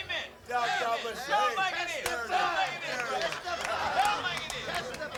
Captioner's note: crowd chattering